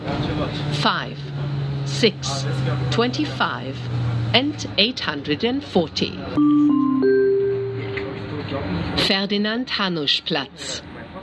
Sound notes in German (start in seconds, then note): 6.4 Gong